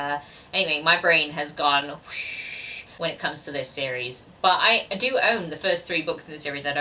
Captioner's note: whoosh noise